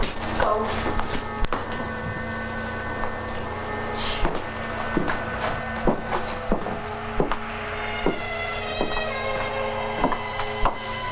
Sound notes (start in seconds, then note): 1.5 dramatic music; 4.6 footsteps tapping